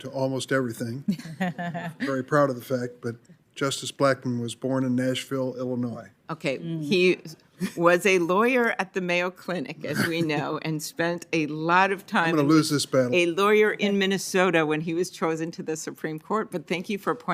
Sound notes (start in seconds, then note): 7.6 laughter